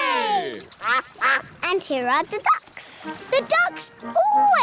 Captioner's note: quacking